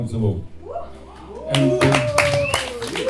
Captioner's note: applause